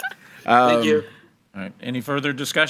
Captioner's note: all laughing; bell